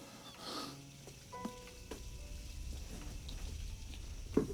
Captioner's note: water splattering